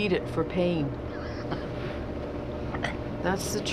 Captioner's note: laughing